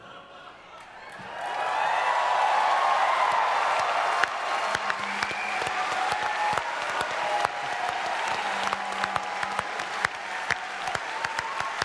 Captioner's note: audience cheers